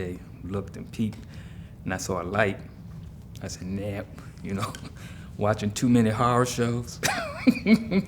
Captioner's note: laughs